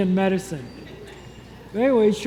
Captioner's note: congregation chuckles